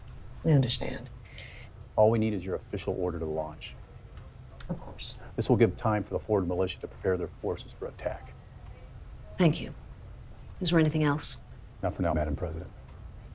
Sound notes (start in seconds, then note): none